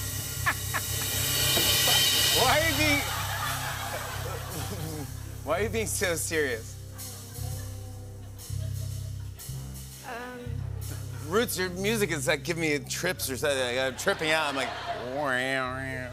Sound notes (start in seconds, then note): 0.4 laughs; 3.0 laughter; 13.8 laughter